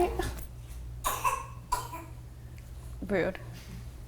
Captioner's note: baby coughs